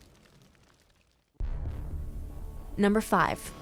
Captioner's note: fire crackling